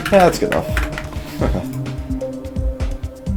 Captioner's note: chuckle